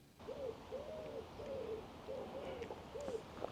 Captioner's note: pigeon cooing